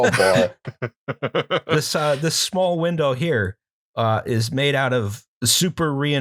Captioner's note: laughter